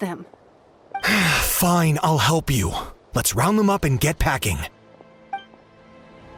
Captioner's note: sigh